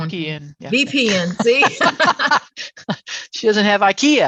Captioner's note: speakers laughing